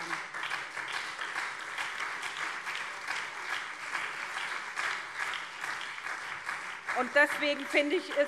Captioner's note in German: Beifall SPD, CDU und vereinzelt BÜNDNIS 90/DIE GRÜNEN